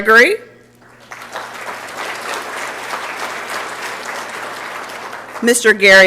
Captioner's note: applause